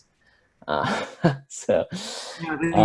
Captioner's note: laughs